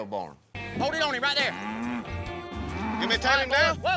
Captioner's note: bull grunting